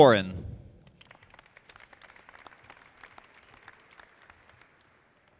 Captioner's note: audience clapping